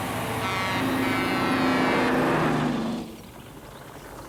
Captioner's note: horn blaring